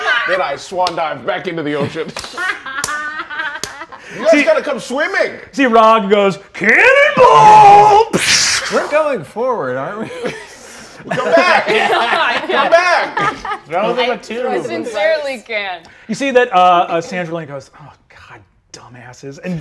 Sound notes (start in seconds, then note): 0.0 cast laughing; 2.1 clapping; 2.3 laughing; 8.1 mimics water splashing; 12.5 players laughing